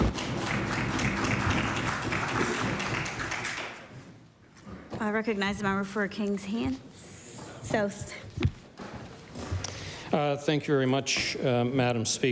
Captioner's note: applause